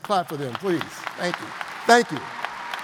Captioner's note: audience applauds